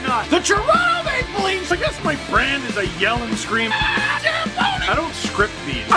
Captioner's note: rock music plays throughout intro; screams